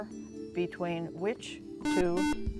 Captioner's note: buzzer